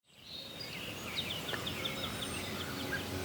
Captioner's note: birds singing; wind rustling